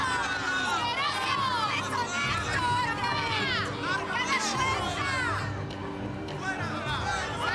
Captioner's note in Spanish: gritos